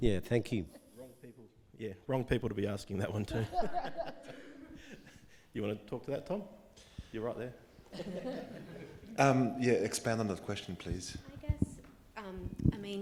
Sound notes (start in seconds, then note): 3.4 audience laughing; 7.9 audience laughing